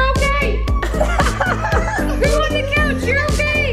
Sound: laughing

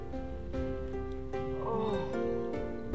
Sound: groan intensifies

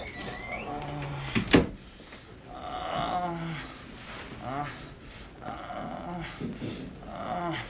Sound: groaning

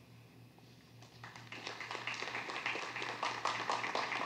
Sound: applause

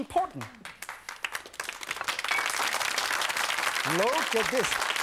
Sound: audience applauding

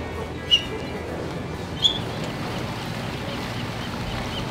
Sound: seagulls cry

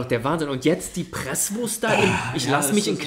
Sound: moans

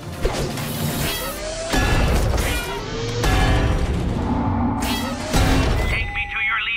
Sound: thudding

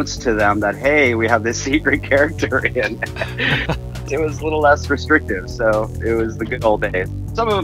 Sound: chuckles

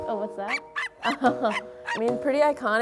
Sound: barking

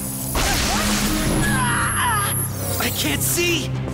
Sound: screams

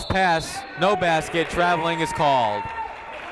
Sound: whistle blowing

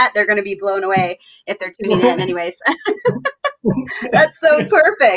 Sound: laughs happily

